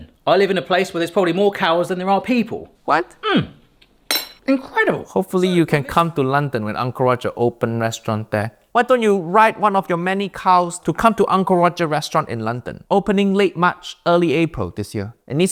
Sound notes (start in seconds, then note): 4.1 spoon clatters